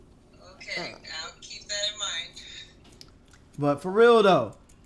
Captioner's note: laughs